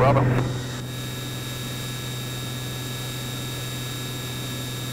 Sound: plane engine buzzing

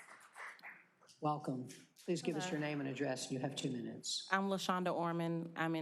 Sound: applause

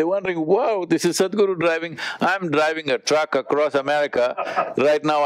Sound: Vusi laughs

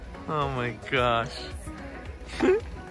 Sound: laughs

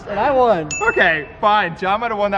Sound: bell dinging

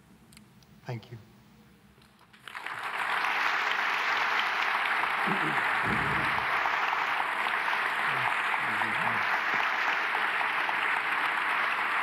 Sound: applause

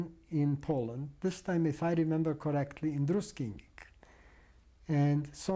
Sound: non-english

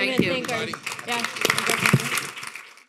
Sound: audience applauding

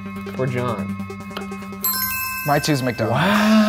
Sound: bell ringing

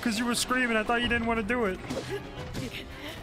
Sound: silly Voice

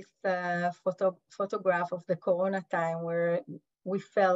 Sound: Hebrew

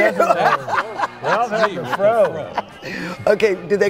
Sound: loud laughter

